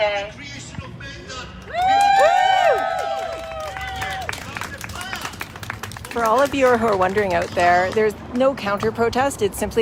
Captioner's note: cheering